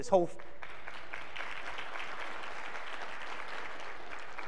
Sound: clapping

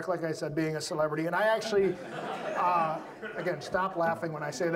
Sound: audience laughs

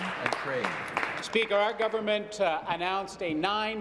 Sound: applause

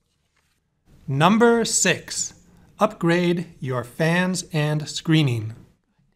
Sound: voiceover

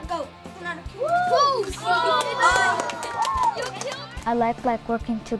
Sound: cheering

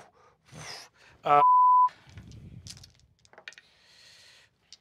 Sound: beep

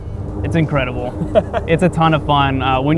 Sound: laughs

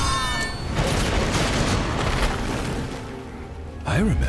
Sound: thunder crashing

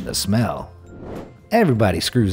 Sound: air whooshing

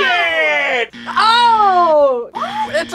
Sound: buzzer rings

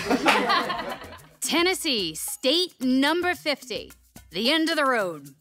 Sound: laughs

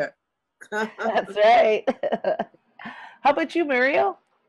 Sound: laughs

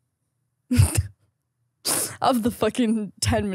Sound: laughs

